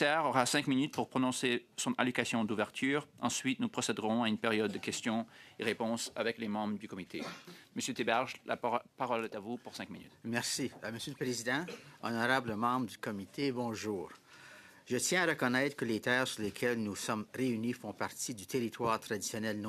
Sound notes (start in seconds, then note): 0.0 speaking French; 6.6 speaking French